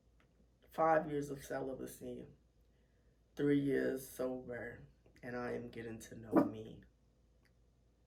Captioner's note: dog barks